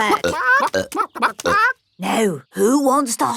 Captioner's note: clucking